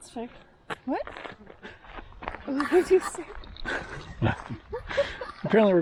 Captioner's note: laughter